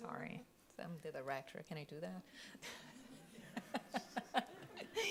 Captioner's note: laughs